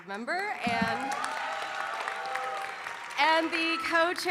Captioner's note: audience cheering and applauding